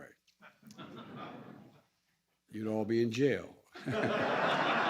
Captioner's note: laughter